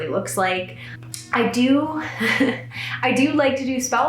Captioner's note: chuckles